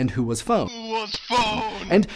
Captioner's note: on phone